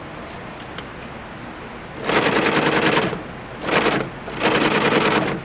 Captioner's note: machinery whirring